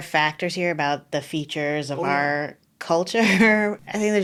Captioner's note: laughing